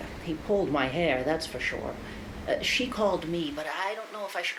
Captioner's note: none